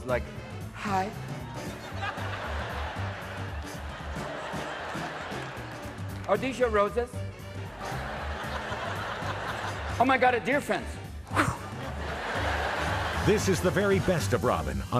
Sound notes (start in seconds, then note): 1.7 audience laughing; 4.2 upbeat music